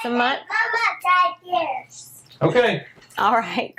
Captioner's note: kids talking